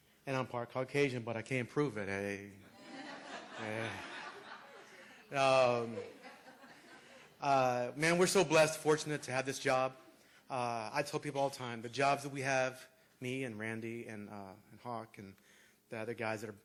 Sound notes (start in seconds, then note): 2.6 laughter